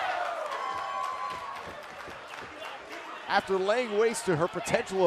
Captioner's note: cheers and applause